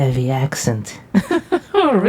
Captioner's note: Vixen laughs